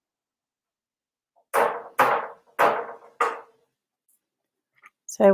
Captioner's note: table banging